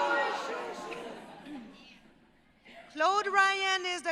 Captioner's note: audience chattering